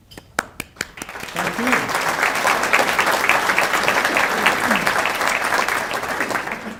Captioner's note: applause